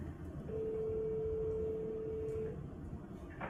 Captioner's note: phone ringing